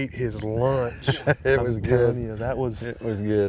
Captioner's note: laughing